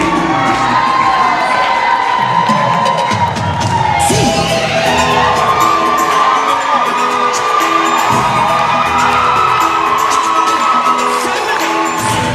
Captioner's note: cheering